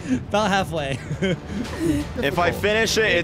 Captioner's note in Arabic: يضحكان